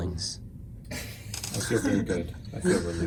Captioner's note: Ryan laughs